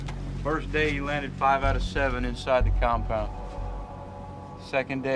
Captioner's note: bell